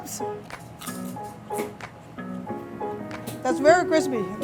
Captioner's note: pie crunching